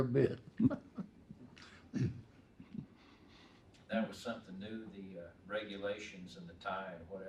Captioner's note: laughing